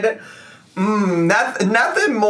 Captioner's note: humming